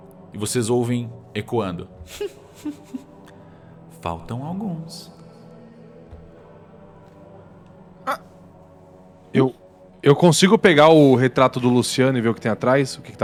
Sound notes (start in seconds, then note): 2.1 giggle